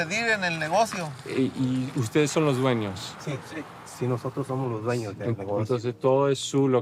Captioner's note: group conversing in Spanish